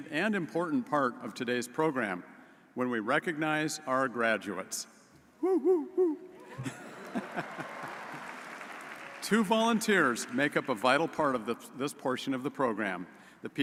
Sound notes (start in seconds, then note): 6.4 laughs; 8.3 audience applauds